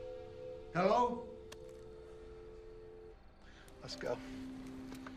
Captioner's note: tone humming